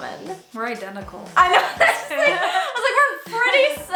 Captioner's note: laughs